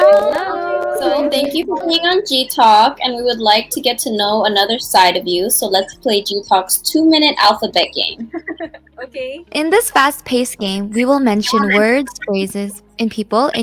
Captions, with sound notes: Hello. . So thank you for coming on GTalk and we would like to get to know another side of you. So let's play Gtalk's two minute alphabet game. (laughing) Okay. in this fast-paced game we will mention words phrases and people